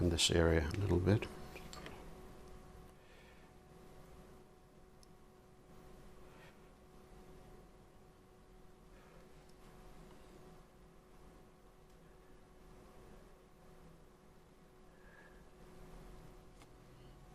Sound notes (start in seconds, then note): 1.8 silence